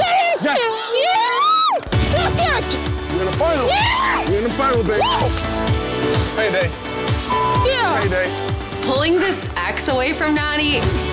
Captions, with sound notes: - Got it! Yeah! - You're in the final. You're in the final, baby. Pay day. - (beep) yeah! - Pay day. - Pulling this ax away from Nany,